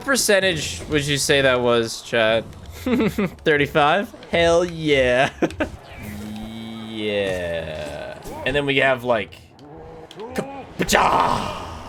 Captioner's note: battle noise